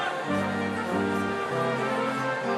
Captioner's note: none